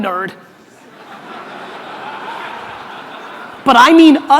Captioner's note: audience laughter